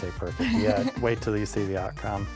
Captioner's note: laughs